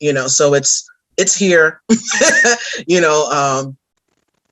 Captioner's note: laughs